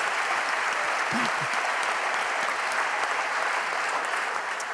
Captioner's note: applause